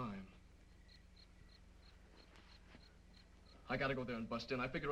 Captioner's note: insects chirping